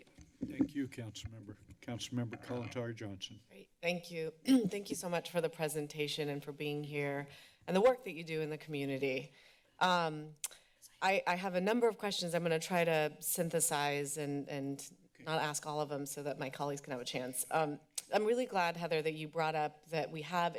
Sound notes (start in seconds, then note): 4.5 clears throat